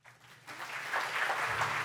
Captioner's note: applause